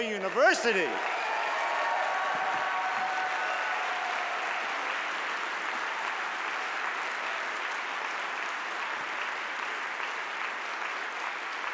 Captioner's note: cheers and applause